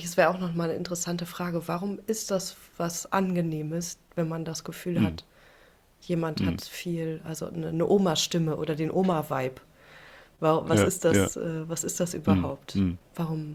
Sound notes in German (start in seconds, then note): 5.0 räuspern